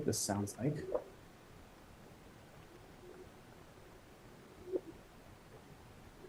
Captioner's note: ice reverberating sounds